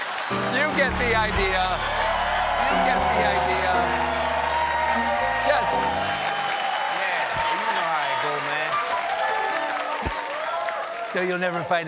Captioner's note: cheers and applause